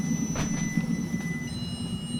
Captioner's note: the sound of closing the veranda door